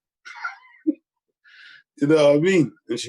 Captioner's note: laughs